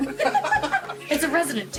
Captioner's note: laughter